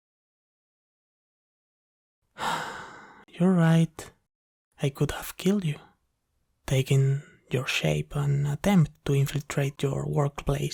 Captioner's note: sigh